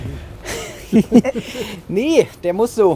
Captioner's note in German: Lachen